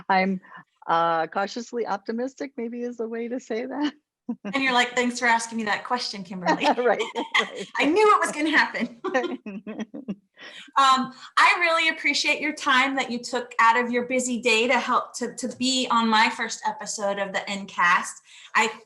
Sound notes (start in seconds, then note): 9.5 all laughing